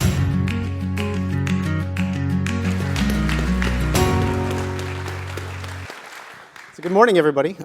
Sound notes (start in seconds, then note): 4.6 applause